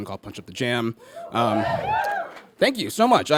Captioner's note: audience whoops